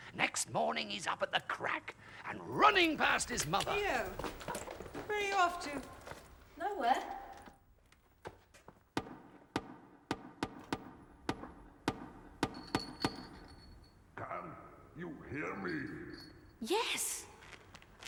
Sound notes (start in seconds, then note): 8.9 drumming; 12.0 chain rattles